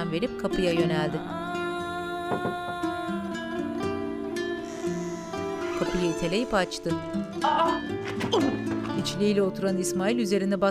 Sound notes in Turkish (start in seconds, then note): 2.1 Kapı vurma sesi; 4.6 Kapı gıcırtısı sesi